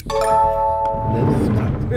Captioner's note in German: lispelnd